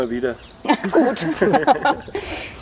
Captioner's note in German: lachend